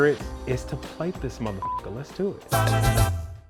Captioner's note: beep; acapella singing